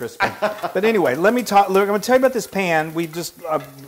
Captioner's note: laugh